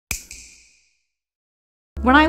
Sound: snap

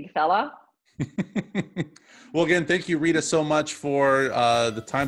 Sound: laughs

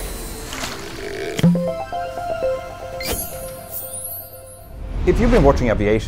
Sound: playful chime

